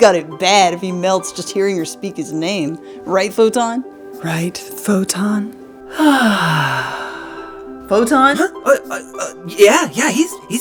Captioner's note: happy sigh